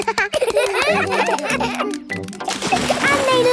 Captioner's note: children laugh